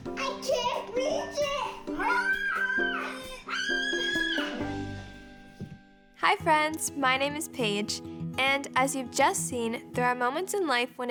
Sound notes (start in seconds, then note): 1.9 children screaming